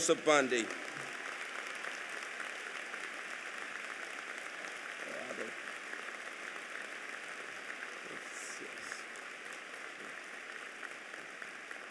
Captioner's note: applause